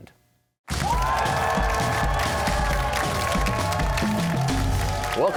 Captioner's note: cheers and applause